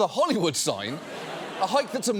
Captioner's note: audience laughs